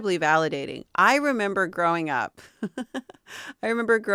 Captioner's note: laughing